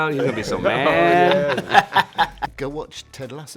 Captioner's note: cast laughs